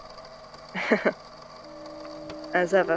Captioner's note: laughs slightly